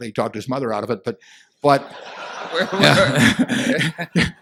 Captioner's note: laughter